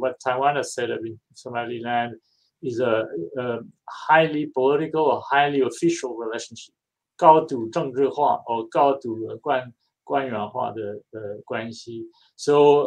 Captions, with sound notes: What Taiwan has set up with Somaliland is a highly political, highly official relationship, [NON-ENGLISH SPEECH]